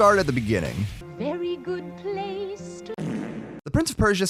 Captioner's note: fart